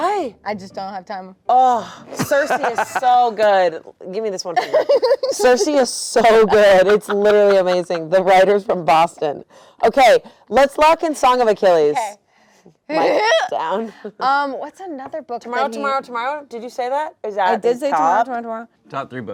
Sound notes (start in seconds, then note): 2.1 laughs; 4.5 laughs